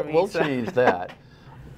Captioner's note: laughter